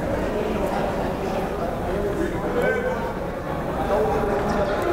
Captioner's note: crowd murmuring